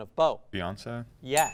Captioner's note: ding sound